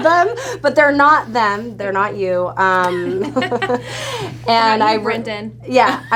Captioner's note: laughs